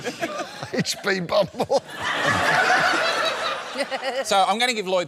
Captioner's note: laughter